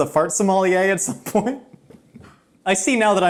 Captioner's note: laughing